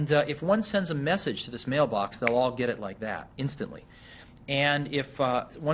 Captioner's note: snaps finger